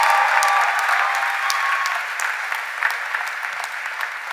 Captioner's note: cheers and applause